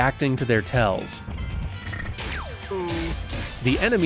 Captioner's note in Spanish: ruidos de King Hippo